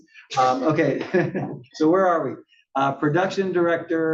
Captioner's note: laugh